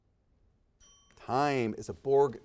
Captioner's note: timer dings